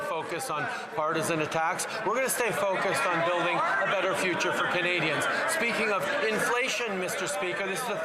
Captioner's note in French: voix de l'interprète